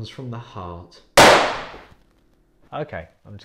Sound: gunshot

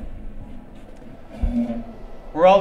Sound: chair Creaks

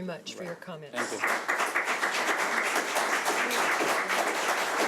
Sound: audience clapping

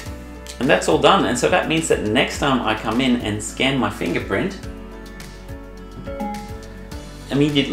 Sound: ding

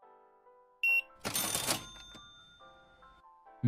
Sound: beeping

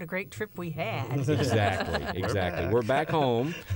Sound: laughter

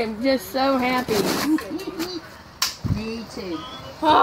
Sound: giggling

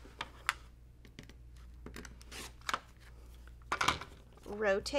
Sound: objects clattering

